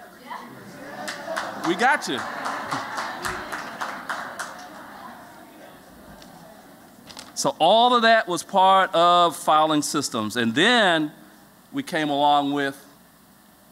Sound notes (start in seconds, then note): 5.0 applause